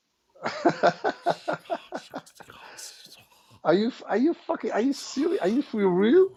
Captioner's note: Ketawa